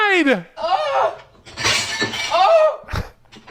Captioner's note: person yelping; glasses clanking; person yelping